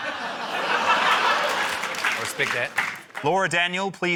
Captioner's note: laughter; applause